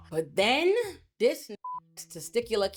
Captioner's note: beep